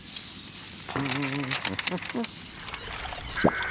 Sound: humming

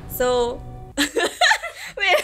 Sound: laughs

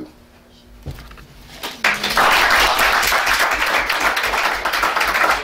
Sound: audience applauding

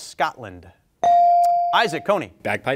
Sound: bell ringing

